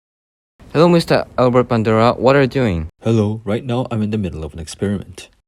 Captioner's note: kind voice